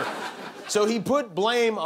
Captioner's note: laughter